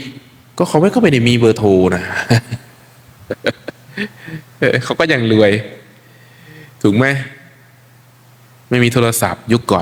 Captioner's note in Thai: เสียงหัวเราะ